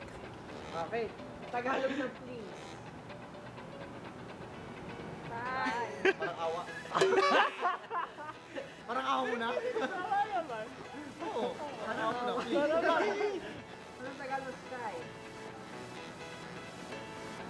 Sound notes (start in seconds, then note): 6.8 laughter; 9.5 laughs